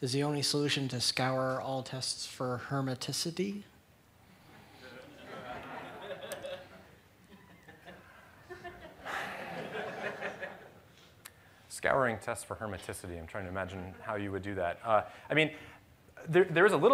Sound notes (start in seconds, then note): 4.9 laughter